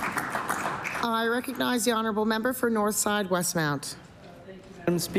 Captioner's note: applause